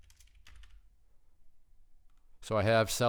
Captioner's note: typing